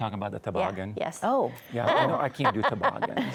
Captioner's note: laughs